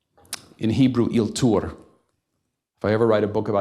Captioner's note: hebrew